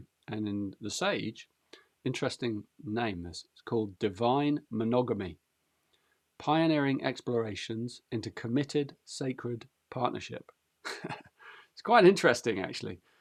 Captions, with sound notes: And in The Sage, interesting name this, it's called 'Divine Monogamy'. 'Pioneering explorations into committed sacred partnership.' [chuckles] It's quite interesting, actually.